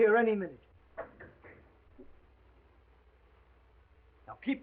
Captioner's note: knocking on door